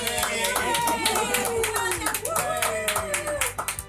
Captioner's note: whooping